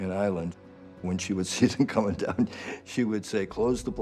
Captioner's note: laughs